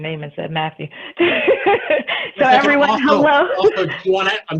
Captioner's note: laughs